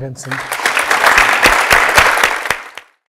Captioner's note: audience applauding